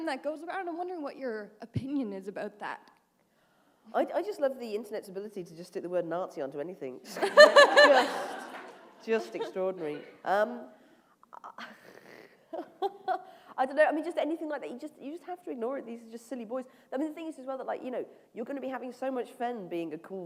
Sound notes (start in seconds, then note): 7.1 laughter; 11.4 chuckle